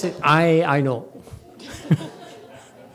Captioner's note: laughs